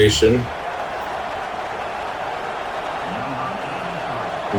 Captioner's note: crowd Noises